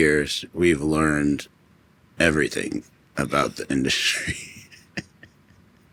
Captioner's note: laughs